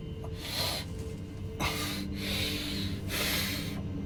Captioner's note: Ra gasping